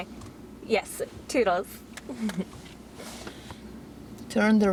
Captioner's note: chuckles